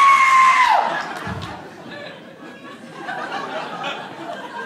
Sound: screams; audience laughing

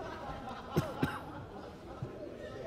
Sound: cough

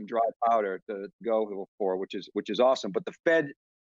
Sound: murmurs

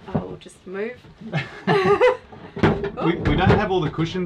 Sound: both laugh

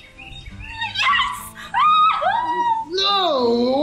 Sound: screams

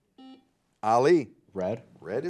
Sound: buzzer buzzes

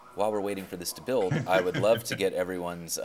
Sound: laughing

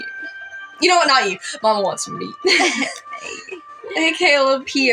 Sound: chuckle; laugh

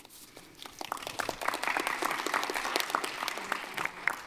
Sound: audience applauding

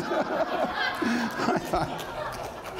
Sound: laughter

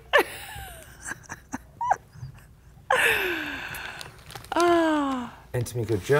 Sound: laughter

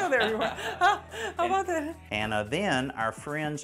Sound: chuckles

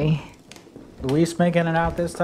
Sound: footsteps

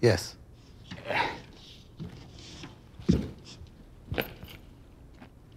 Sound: interviewee grunting

